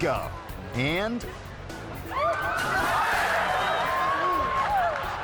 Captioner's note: riders screaming